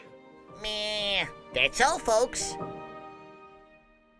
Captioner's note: In voice of Bugs Bunny